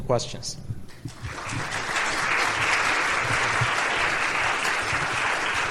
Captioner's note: applause